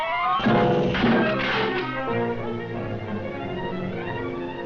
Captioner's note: metal clatters